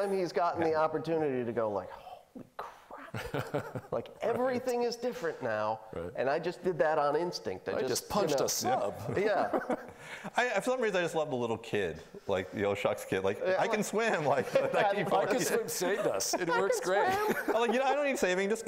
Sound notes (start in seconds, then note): 8.7 laughing; 14.2 laughing